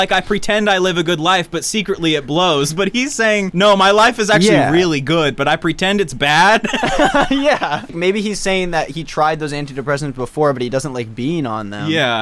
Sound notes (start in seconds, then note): 6.6 everyone laughs